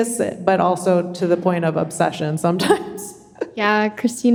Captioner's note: chuckles